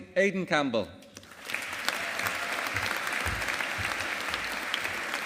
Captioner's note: audience applauding